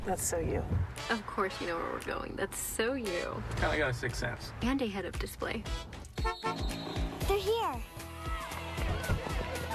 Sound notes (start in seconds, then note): 6.1 Enclave honks